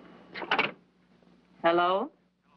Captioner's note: on phone